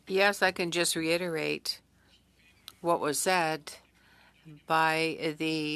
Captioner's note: speaking French